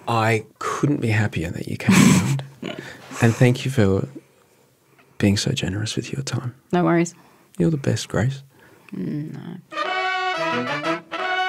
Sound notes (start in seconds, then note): 1.9 laughing; 9.8 upbeat music